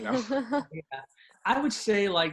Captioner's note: laughter